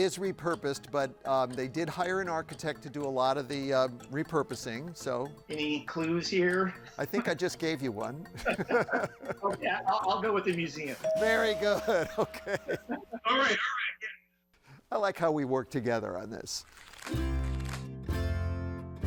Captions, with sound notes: but they did hire an architect to do a lot of the repurposing, so- - Any clues here? - I think I just gave you one. (laughs) - Oh, yeah, I'll go with the museum. (tone chimes) - Very good. (chuckles) Okay. - All right, all right, yeah. - I like how we work together on this. (paper rustles) (calm music)